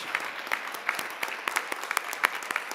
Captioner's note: applause